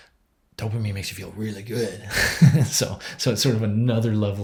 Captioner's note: chuckles